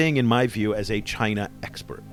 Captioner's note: voiceover